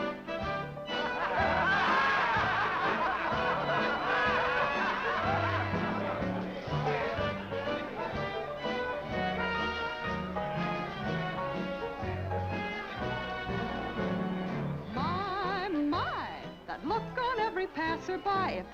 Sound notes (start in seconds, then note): 0.9 crowd laughing; 4.4 upbeat music